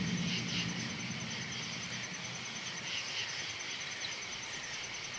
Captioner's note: crickets chirruping